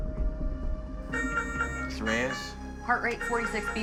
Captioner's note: monitor beeping